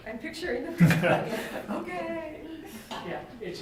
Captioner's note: laughter